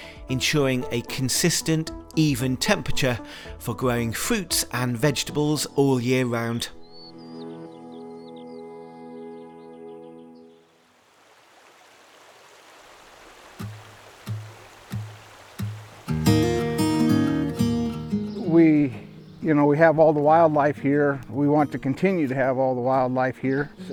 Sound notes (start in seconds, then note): 7.1 birds chirping; 7.1 ominous music; 10.7 water trickles; 14.2 upbeat music